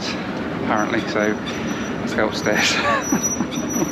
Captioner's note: laughs